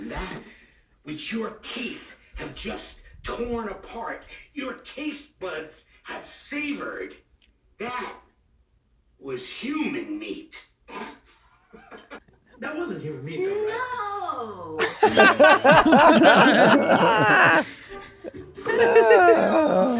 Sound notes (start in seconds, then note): 14.7 all laughing